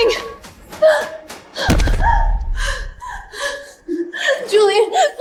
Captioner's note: crying